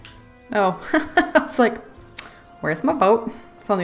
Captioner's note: laughs